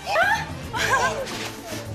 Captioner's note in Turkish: Gülme sesi